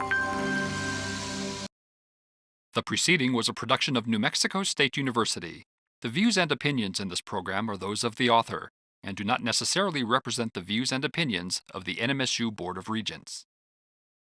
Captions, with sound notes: (twinkly music) - [Voiceover] The preceding was a production of New Mexico State University. The views and opinions in this program are those of the author, and do not necessarily represent the views and opinions of the NMSU Board of Regents.